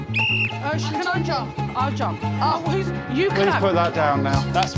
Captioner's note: whistle blows